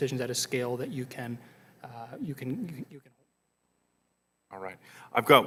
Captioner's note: audio goes out